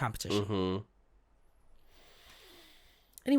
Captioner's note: deep inhale